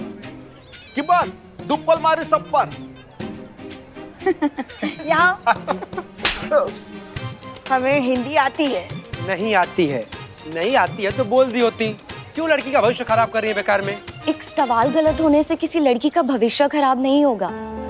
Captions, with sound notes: Or are you kidding everyone? Come here. [slaps] I know Hindi. You don't. You could've just said so. Why are you ruining her future? Just one wrong answer will not ruin a girl's future.